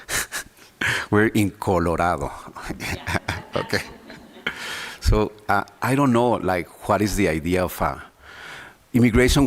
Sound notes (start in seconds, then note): 2.4 laughs